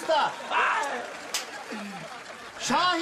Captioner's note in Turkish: Sevinç çığlıkları